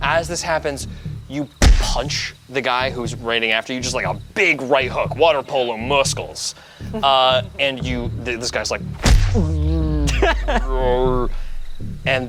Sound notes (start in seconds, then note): 9.3 imitates slow-mo grunting; 11.0 laughs